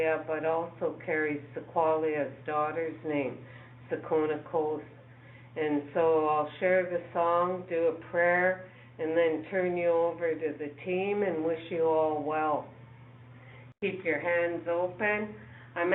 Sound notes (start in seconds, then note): 4.0 speaking in foreign language